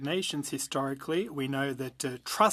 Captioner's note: speaking French